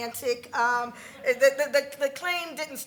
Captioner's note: congregation laughs